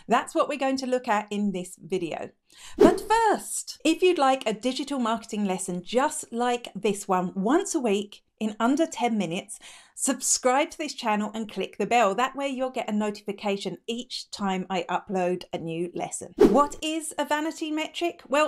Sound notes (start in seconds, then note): 2.7 air whooshing; 16.4 air whooshing